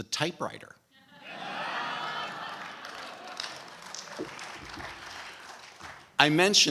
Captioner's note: laughter/applause